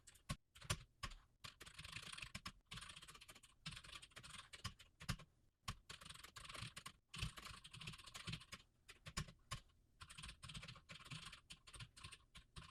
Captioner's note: typing sounds